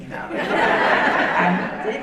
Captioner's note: audience laughing